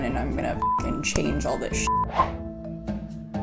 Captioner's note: beep